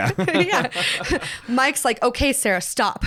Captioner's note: both laugh